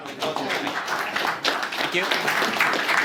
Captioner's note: applause